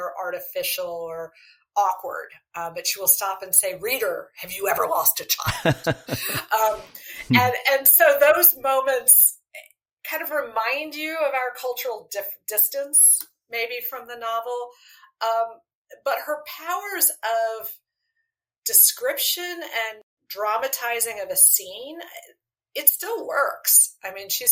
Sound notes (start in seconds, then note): 5.4 laughter